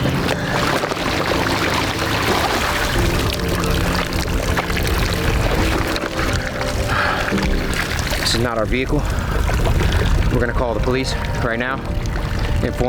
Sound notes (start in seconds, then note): 0.7 water sloshing